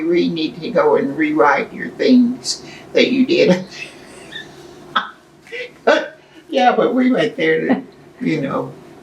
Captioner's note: laughs